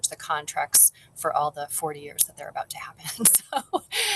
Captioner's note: laughs